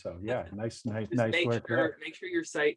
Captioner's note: chuckles